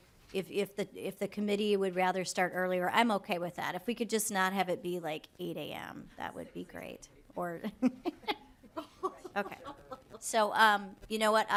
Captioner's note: lauging